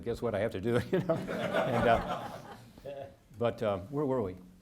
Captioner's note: audience laughing